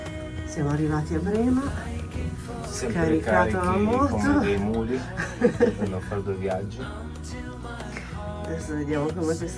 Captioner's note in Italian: risate